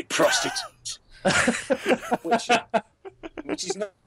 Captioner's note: laughter